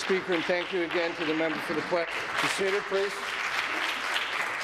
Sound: applause

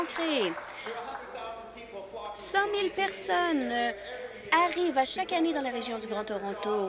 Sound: applause

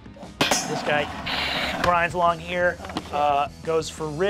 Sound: mimics scraping

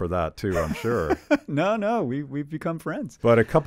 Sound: laughing

